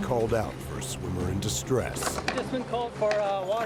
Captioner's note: voiceover